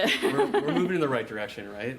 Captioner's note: laughter